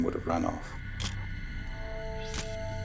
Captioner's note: camera shutter click